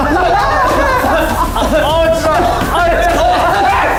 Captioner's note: cough